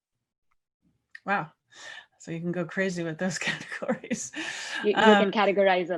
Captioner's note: laugh